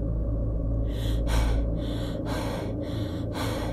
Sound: laboured breathing

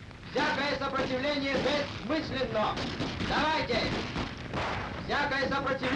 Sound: soldier speaking foreign language

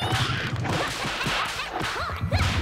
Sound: banging

